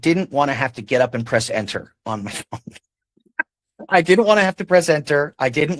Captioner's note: chuckles